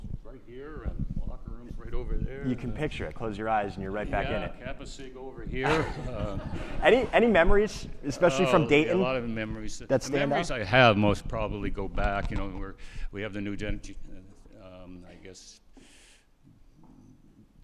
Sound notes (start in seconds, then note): 5.6 laughs; 5.6 attendees laughing